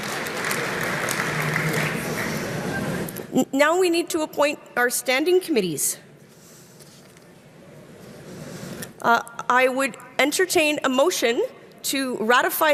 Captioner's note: applause